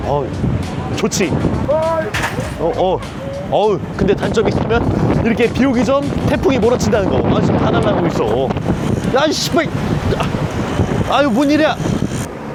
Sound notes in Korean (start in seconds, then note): 2.0 갑자기 몰아치는 돌풍